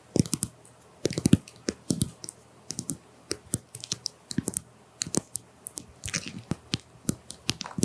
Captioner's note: tap tap